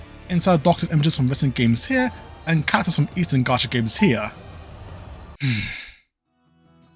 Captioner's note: sigh